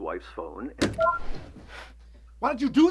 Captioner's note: soundboard beeps